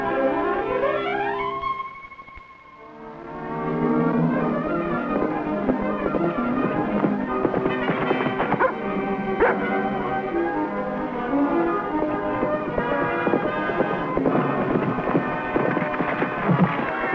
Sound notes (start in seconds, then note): 5.1 whimsical music; 9.4 Rebel barking